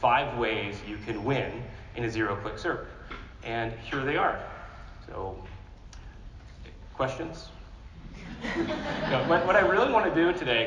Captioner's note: laughter